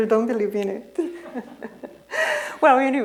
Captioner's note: laughter